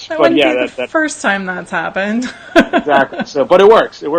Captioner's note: laughs